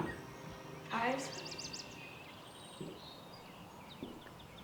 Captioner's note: birds chirping